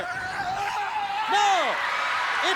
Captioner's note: wrestler screaming